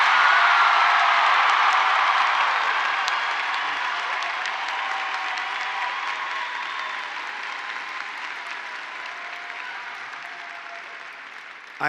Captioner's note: applause